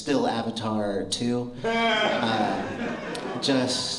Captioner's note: laughter